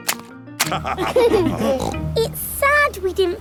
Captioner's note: laughter